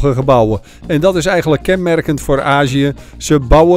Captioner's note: voiceover